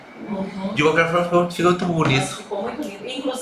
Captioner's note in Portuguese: murmúrio de afirmação